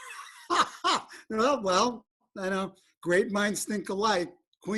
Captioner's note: laughter